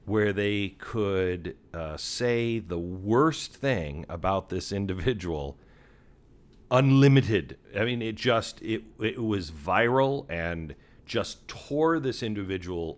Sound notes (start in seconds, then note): none